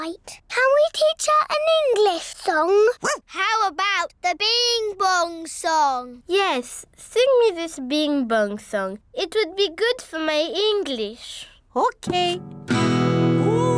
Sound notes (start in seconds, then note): 3.0 barks; 12.0 strums guitar